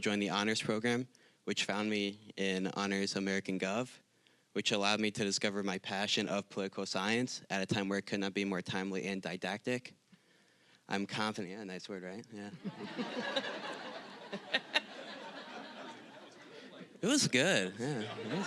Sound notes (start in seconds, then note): 12.5 audience laughing